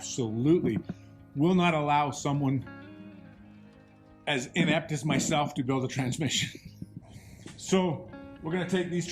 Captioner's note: laughs